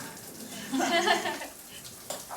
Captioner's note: giggling